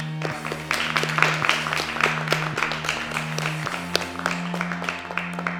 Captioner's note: applause